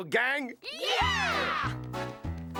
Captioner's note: cheering